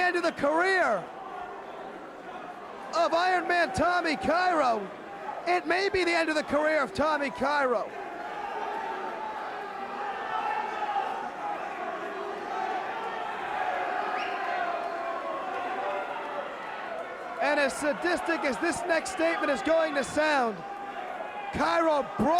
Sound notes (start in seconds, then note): 9.1 crowd cheering